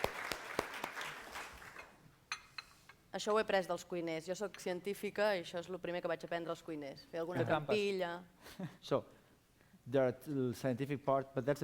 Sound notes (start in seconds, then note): 2.4 non-english speech